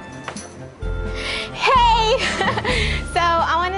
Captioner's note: laughter